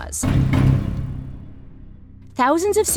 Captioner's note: two thumping sounds